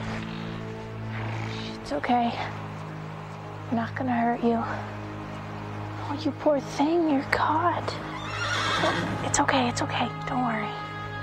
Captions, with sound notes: (horse snorts) It's okay. Not gonna hurt you. Oh you poor thing. Your caught. (horse neighs) It's okay, it's okay. Don't worry.